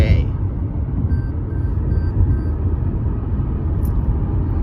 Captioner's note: car speed lane beeps